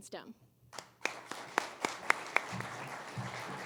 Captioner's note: applause